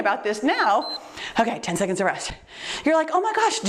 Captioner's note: timer beeps